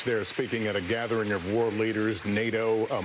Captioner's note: applause